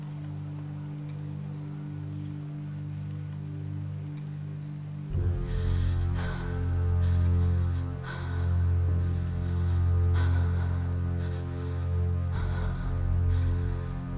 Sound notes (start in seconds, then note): 5.0 heavy breathing; 6.3 dramatic music